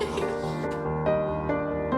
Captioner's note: laughs